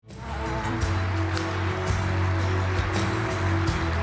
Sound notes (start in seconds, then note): 0.0 applause